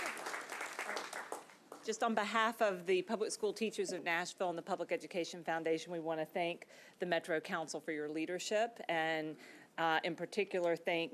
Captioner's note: applause